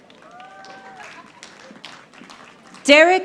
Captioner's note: audience applauding